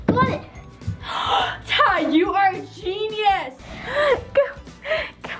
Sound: gasp

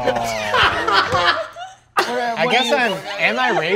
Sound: laughing

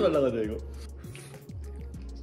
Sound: sniffles

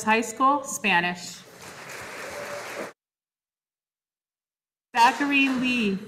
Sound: audience applauding

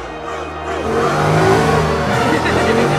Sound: car engine revving; Cruz laughs

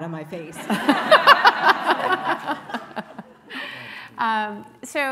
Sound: laughing

